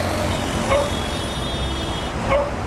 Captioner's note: cars honking; dog barking